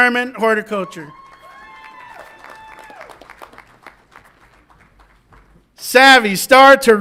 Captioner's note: audience applauds and cheers